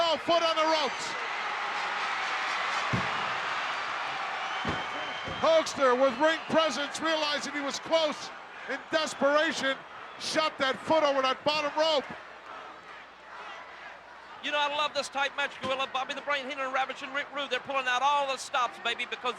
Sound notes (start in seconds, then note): 1.7 audience cheering